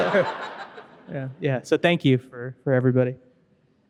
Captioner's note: audience laughing